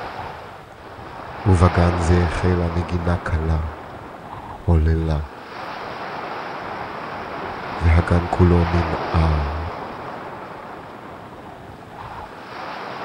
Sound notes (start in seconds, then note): 1.4 narrator speaking in foreign language